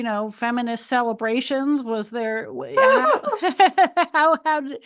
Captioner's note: laughs